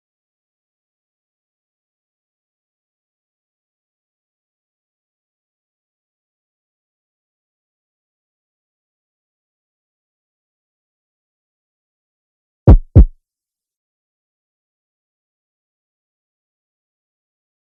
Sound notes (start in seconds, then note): 12.6 heartbeat; 13.3 silence